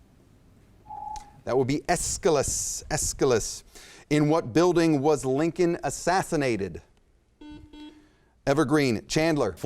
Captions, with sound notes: (timer beeps) That would be Aeschylus, Aeschylus. In what building was Lincoln assassinated? (buzzer chimes) Evergreen, Chandler.